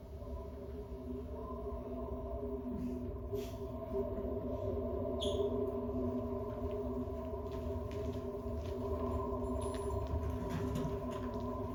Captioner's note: wind